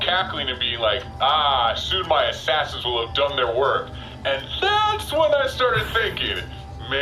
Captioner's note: thoughtful